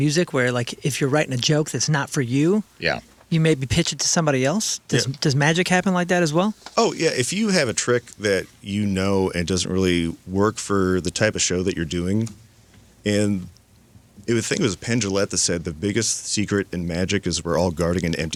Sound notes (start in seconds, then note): none